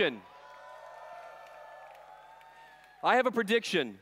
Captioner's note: cheers